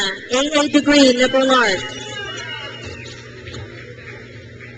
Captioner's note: crowd cheers